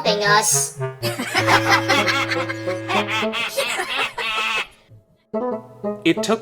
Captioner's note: evil mischief laughter